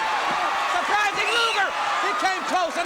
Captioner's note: crowd cheering